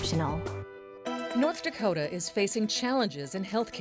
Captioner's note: voiceover